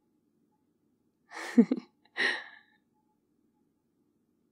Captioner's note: laughs